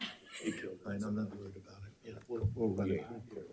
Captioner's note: participants laughing